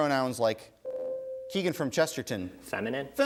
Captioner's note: ding